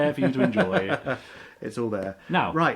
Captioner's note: laughs